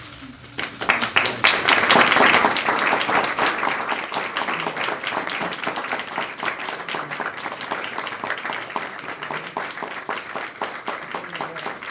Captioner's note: applause